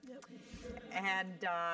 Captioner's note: laugh